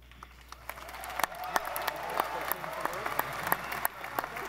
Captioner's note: audience applauding